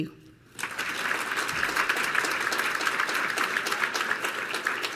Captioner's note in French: Applaudissements